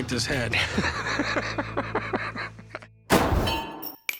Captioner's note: laughter